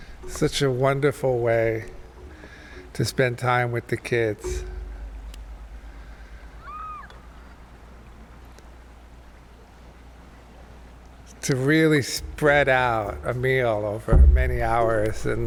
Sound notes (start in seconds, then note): 6.6 kids yelling happily